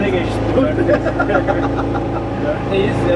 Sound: laughing

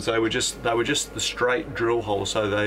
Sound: none

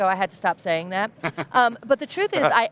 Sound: laughs

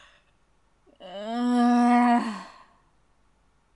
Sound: frustrated sigh

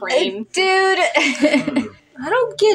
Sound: laugh

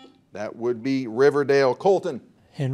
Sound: buzzer dings

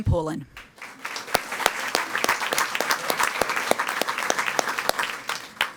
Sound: audience applauding

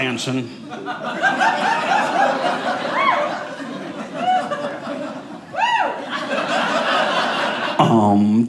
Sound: audience laughing

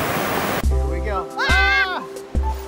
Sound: both screaming

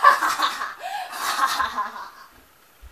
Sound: evil laughter

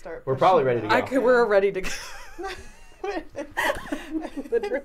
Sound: laughing

